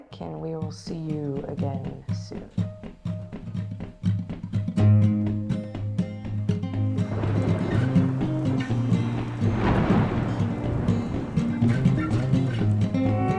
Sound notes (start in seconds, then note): 4.8 upbeat music; 6.8 thunder rumbling; 6.8 lightning crackling